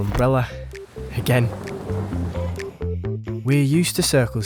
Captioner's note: thunder rumbling